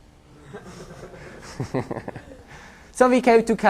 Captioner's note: laughter